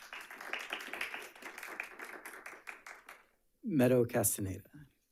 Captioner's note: attendees applauding